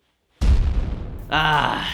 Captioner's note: cannon fire